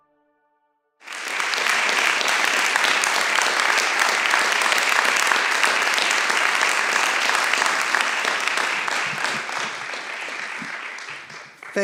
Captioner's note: applause